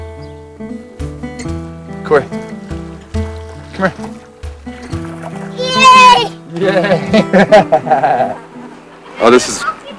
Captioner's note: laughter